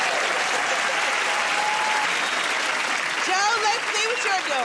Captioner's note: cheers and applause